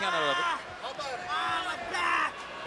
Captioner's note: yelling